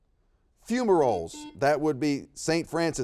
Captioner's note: buzzer beeps